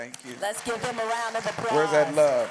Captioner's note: applause